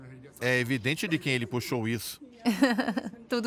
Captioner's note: Harry and Meghan giggle